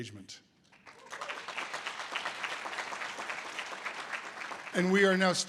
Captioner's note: audience applause